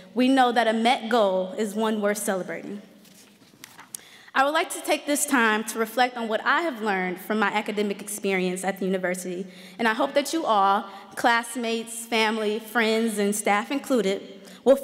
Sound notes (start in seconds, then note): none